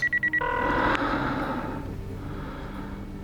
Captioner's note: line ringing